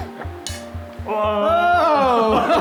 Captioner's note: snap; laughter